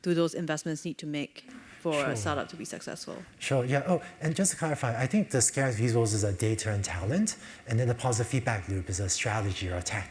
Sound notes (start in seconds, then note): none